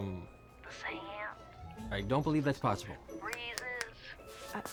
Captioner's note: snaps fingers